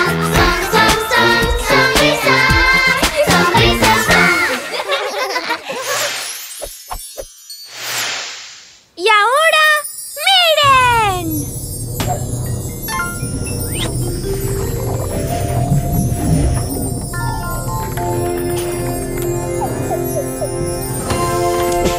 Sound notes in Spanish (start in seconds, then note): 4.4 Risas; 11.4 Música suspenso